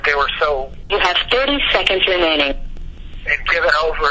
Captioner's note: RECORDED VOICE: you have 30 seconds remaining